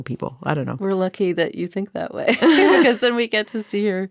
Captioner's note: laughing